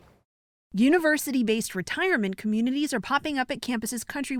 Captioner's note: voice-over